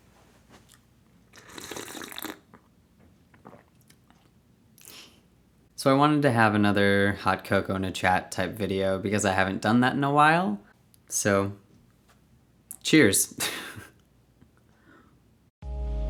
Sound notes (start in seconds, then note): 1.3 slurping noise; 12.8 laughs